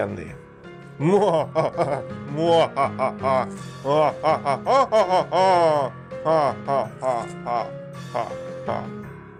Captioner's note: ominous laughter